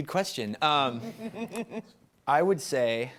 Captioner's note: laughing